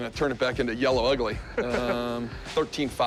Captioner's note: laughs